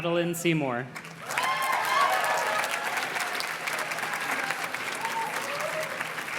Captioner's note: audience cheers and claps